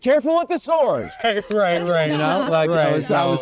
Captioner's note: laughs